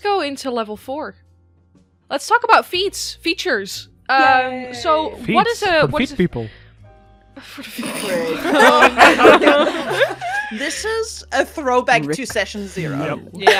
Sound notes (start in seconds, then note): 7.6 laughter